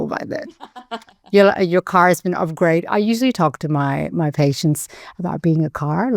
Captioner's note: chuckling